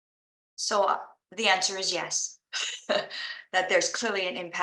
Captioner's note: laughing